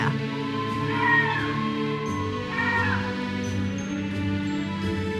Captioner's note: audience cheers and applauds